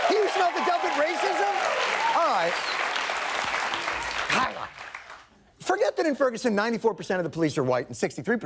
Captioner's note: applause